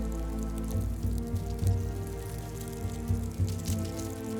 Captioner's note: crackling